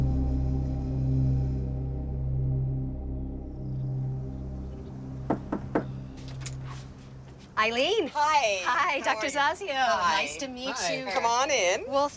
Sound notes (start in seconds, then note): 5.2 knocking